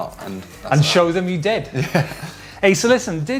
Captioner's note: laughing